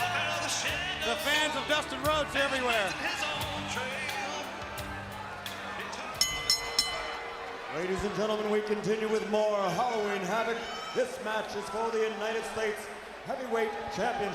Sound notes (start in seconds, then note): 6.1 bell ringing